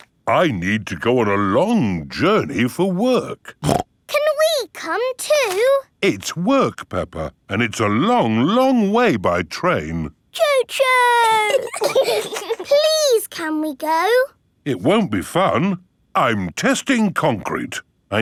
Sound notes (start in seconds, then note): 11.1 giggling